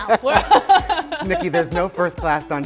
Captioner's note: both laugh hard